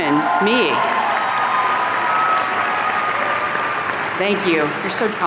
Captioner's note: audience cheering